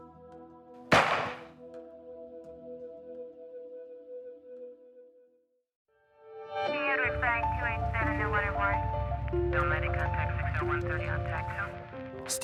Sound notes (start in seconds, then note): 0.9 gun blasting; 1.5 gentle music